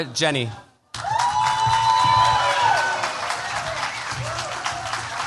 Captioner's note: cheers, applause